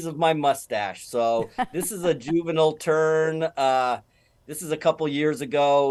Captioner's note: laughs